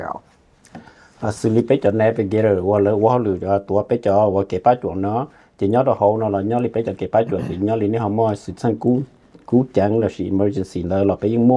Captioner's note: Speaking in Hmong